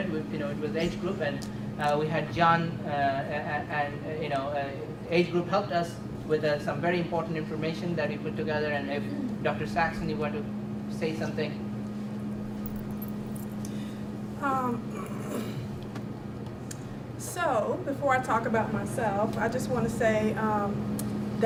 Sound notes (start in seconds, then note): 14.8 clears throat